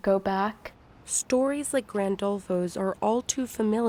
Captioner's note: voice-over